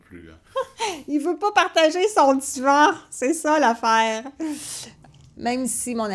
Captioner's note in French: rire